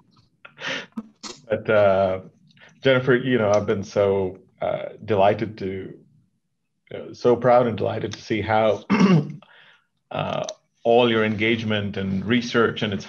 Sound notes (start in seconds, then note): 8.8 clears throat